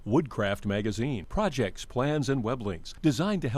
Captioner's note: voiceover